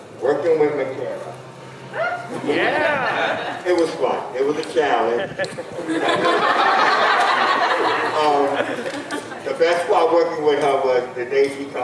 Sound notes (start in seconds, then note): 2.5 audience laughing; 4.9 audience laughing